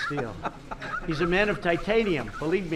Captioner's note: laughter